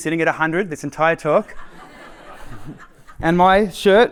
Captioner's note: laughter